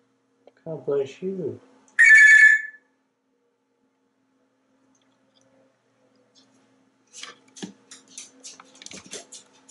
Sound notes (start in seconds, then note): 2.0 telephone sound